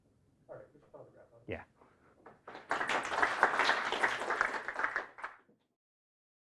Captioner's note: applause